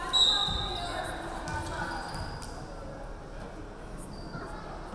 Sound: referee whistling

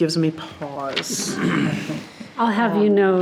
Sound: board members laugh

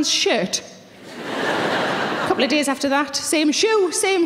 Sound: audience laughing

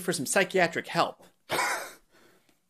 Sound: laughs

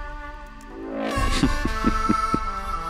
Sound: laughing

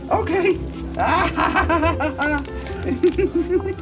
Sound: laughs

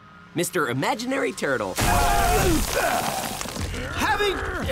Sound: grunting, rumbling

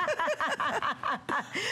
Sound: laughter

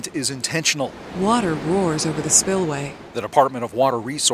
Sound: water rushing

